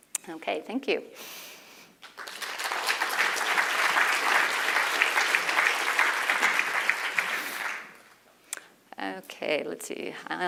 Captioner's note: applause